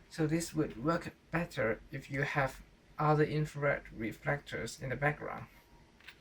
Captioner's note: interfering